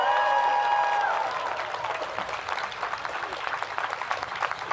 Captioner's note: cheers and applause